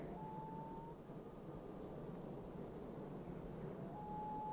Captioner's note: birds calling